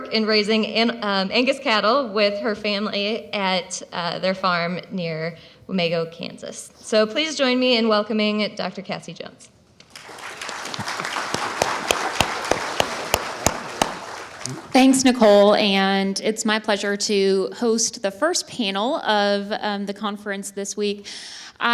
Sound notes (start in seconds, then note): 9.9 attendees applaud